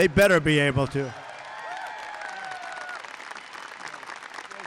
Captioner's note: applause